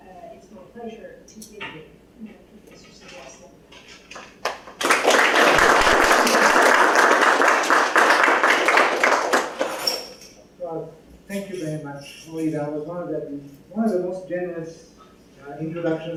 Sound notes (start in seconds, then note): 4.1 applause